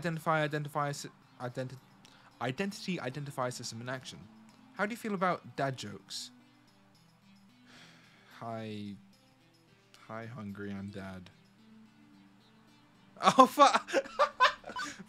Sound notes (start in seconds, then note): 7.7 sighs; 13.2 laughs; 13.2 laughs harder for no fucking reason